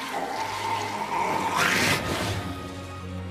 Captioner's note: screeching; screeching stops